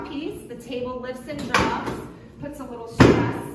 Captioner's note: table thump